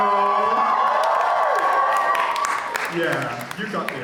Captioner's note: audience cheers